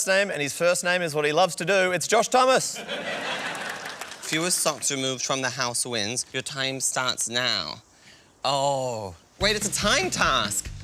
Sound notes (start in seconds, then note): 2.7 laughter